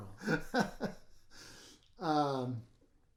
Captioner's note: laughing